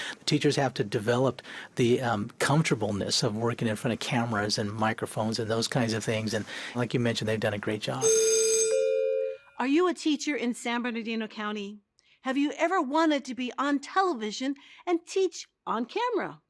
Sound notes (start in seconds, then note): 8.0 school bell rings